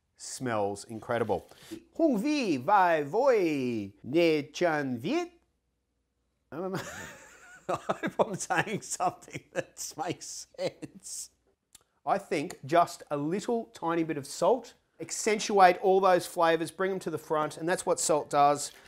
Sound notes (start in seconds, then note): 6.8 laughs